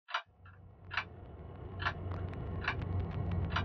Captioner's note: clock ticking